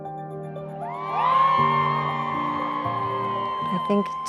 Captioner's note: crowd cheering